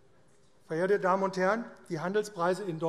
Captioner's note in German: none